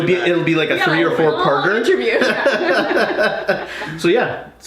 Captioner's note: laughing